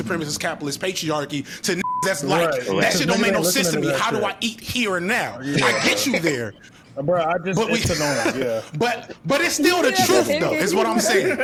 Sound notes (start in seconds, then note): 1.8 beep